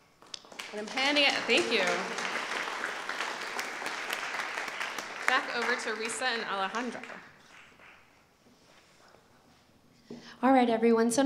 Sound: applause

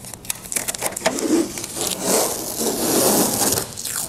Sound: tape ripping off

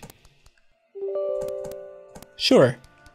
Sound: computer chimes

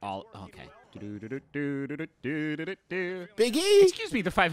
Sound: humming

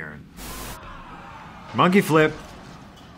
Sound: screaming

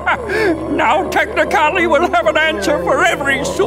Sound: laughing

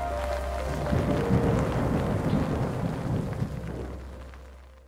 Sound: thunder booming

